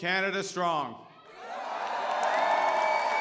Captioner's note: applause